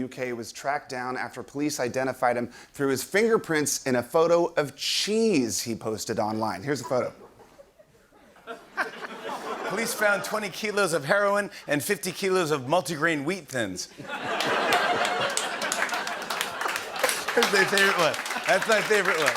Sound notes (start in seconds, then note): 6.8 laughter; 13.9 laughter; 14.3 applause